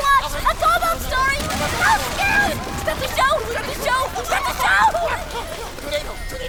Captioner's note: crash